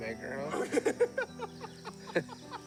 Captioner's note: laughter